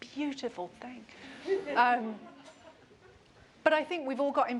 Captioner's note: laughter